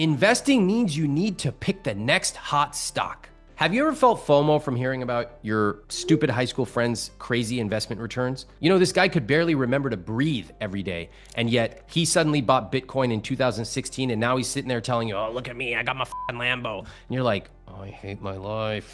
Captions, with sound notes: investing means you need to pick the next hot stock. Have you ever felt FOMO from hearing about your stupid high school friend's crazy investment returns? You know, this guy could barely remember to breathe every day, and yet he suddenly bought Bitcoin in 2016 and now he's sitting there telling you, oh, look at me, I got my (beep) Lambo. And you're like, oh, I hate my life.